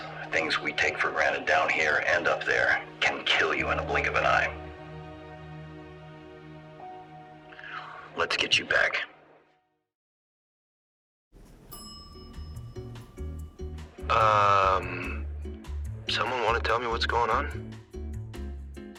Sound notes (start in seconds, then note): 11.4 gentle upbeat music; 11.4 bell dings